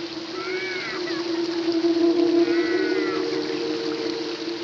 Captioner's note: screaming, sobbing continues